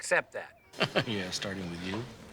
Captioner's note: laughs